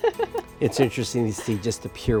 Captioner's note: laughs